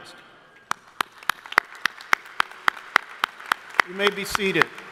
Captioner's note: crowd applauding